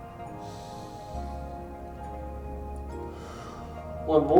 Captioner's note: inhales; exhales